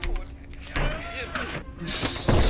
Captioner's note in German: Surren, Zischen